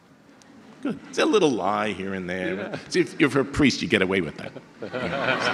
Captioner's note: audience laughter